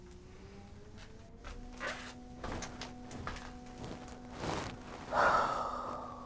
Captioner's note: distant leaf blower humming; sighs